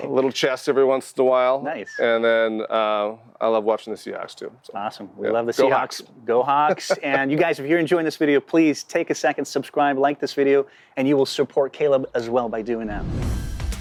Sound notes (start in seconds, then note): 6.6 laughs